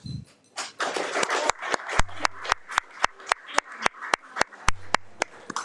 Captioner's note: audience applauding